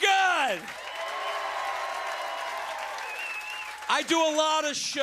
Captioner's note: cheers and applause